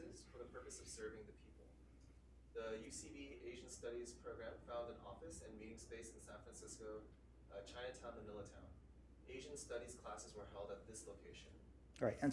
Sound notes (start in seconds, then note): none